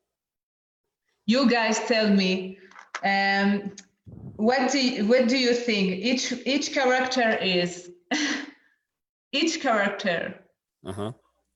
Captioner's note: laughs